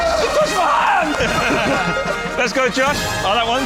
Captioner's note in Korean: 웃음